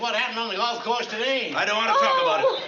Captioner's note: cries